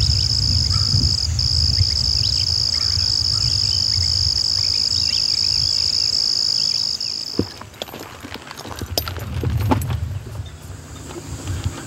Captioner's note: birds cawing